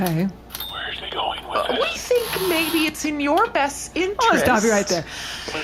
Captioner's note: whispering